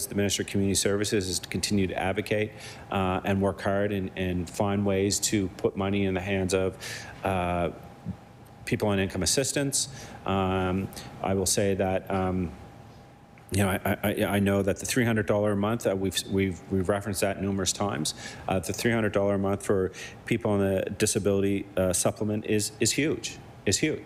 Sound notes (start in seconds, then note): none